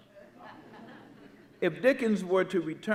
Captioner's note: audience laughing